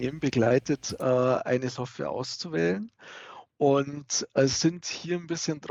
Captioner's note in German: lacht